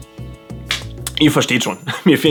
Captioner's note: clap